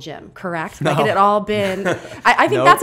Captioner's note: laughter; laughs